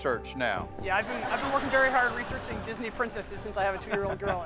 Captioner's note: laughs